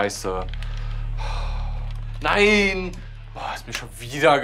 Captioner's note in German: Genervter Laut